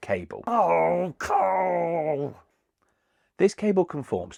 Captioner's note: grumbling